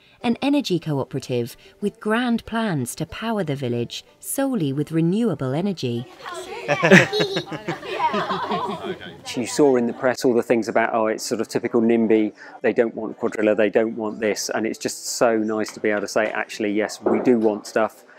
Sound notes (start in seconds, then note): 6.6 laughter